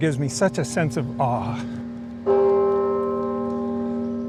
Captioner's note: bell rings